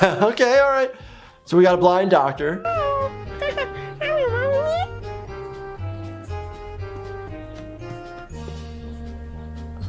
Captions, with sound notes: Okay, all right. So we've got a blind doctor. (gibberish language)